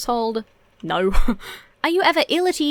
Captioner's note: chuckles